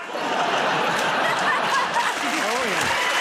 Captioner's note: laughter